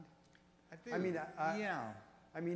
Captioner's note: voiceover